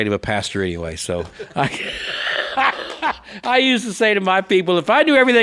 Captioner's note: laughs